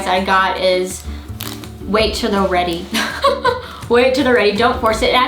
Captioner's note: laughs